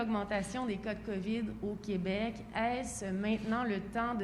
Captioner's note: speaks French